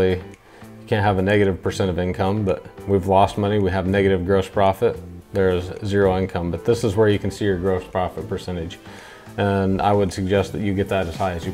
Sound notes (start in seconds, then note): none